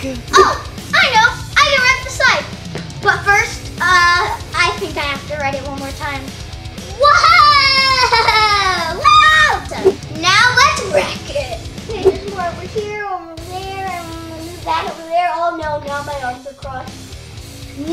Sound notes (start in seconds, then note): 7.0 assistant crying out gleefully